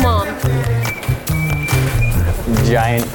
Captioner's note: whistling